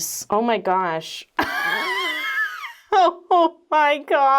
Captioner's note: laughs